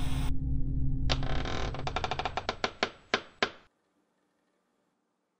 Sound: phone static noise; door Creeks

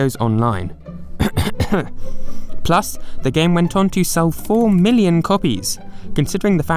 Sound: cough cough

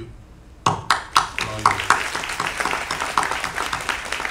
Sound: applause

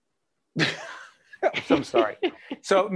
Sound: laughing

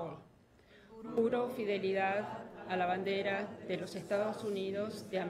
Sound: speaking in foreign language

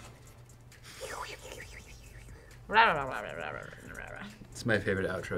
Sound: makes miscellaneous sound effects

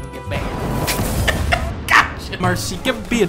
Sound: snickering

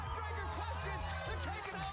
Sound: cheers and applause

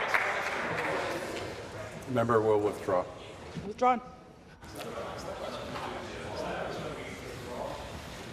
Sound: applause

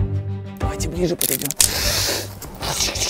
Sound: Crunch

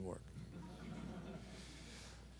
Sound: laughter

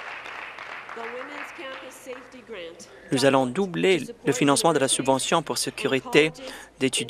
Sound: applause

